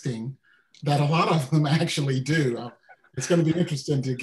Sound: laughing

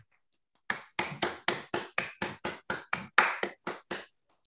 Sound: applause

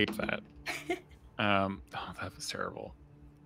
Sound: laughs

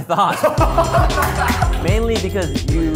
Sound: laughter

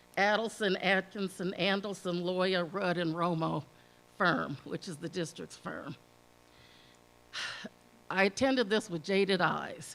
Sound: sigh

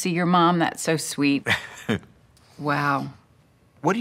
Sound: laughs

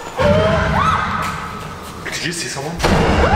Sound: people gasping; suspenseful music; girl shrieking

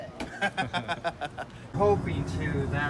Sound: laughing

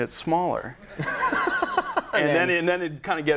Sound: laughing

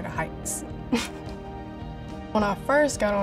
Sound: laughs

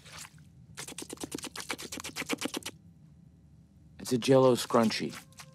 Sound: slurping

